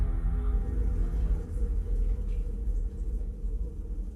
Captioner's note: low tones